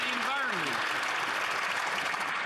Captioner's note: some Applause